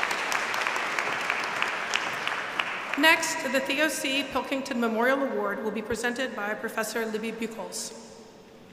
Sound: applause

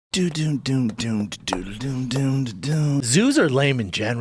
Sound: Joe rogan humming

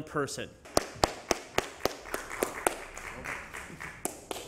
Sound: applause

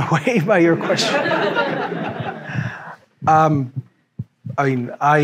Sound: audience laughing

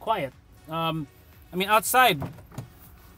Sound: door opens

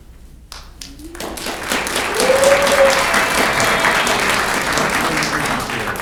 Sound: audience clapping and cheering

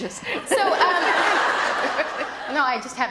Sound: laughter

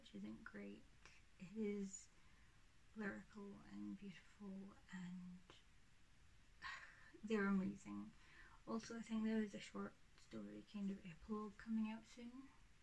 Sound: laughs

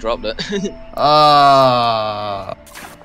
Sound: goofy ahh giggle; groan

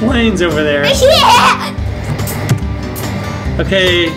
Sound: laughing

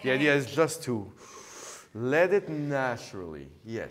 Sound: inhale

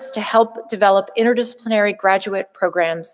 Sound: none

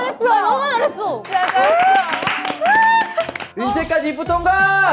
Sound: applause

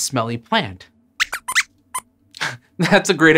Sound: squeaks squeaks

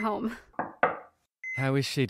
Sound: knock on door

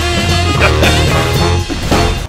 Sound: laughs

